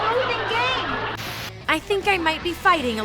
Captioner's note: static